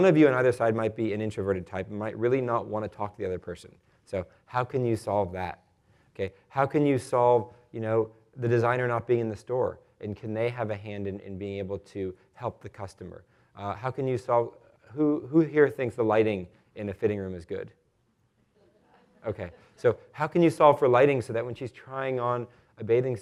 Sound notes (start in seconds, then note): 18.6 laughter